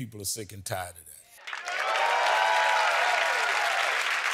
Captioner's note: applause